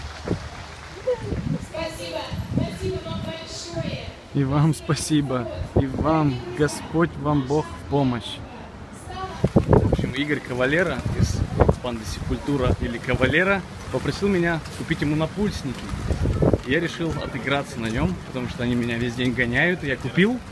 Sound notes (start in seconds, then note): 1.7 woman saying into the mic